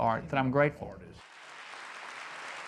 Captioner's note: audience applauding